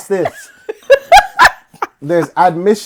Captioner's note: laughing